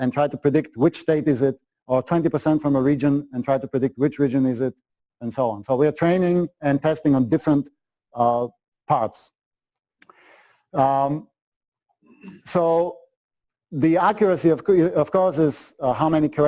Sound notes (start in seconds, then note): 9.7 pause